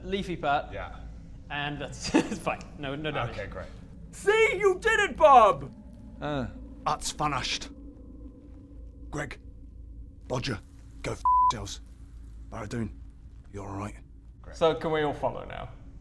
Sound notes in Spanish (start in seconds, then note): 6.8 En "escocés"